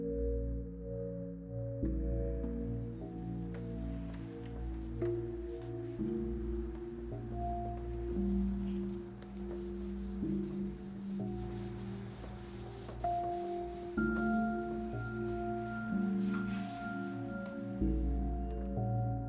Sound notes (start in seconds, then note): 0.3 eerie music continues; 3.7 cloth rubbing; 13.0 eerie music continues